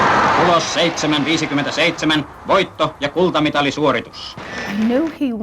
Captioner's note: announcer in German